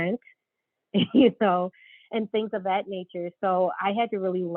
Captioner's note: laughs